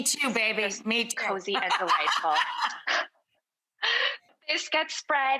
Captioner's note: laughing